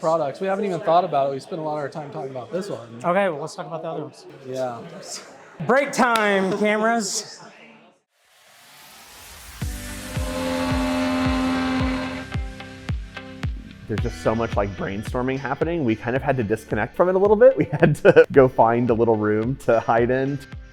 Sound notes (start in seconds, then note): 9.6 machine revving; 9.6 upbeat music